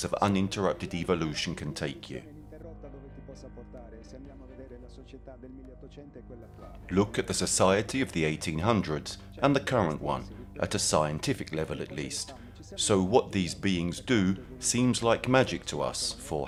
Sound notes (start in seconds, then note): 2.7 gentle music continues; 2.7 speaking in foreign language